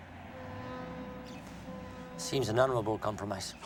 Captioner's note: ship horn blares in distance